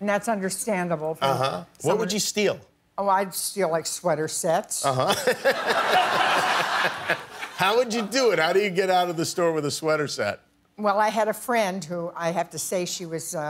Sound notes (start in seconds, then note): 5.0 laughter